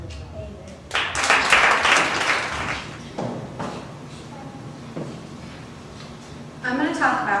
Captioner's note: applause